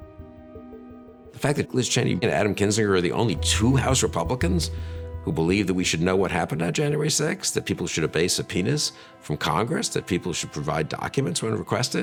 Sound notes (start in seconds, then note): none